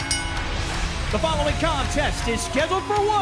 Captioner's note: bell ringing